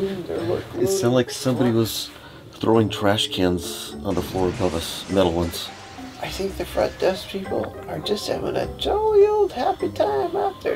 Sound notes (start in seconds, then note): 0.2 speaks faintly; 5.7 glass breaking sound effect